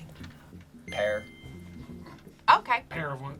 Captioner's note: word twinkles